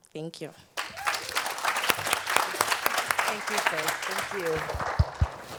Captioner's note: audience applauds